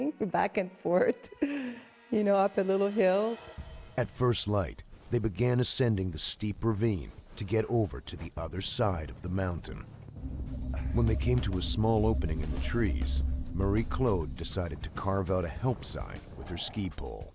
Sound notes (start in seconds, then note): 13.9 voiceover